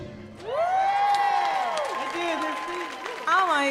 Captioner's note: audience cheering and applauding